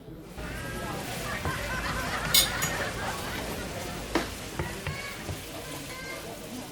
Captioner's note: family kitchen and cooking sounds